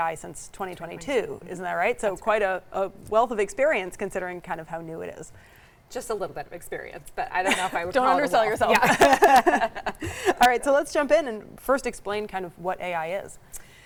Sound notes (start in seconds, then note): 8.6 both laughing